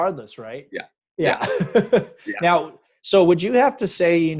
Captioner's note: laughing